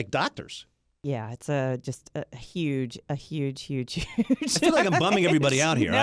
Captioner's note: laughs